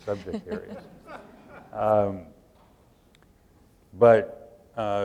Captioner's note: laughter